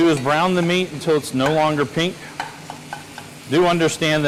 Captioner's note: utensil thudding continues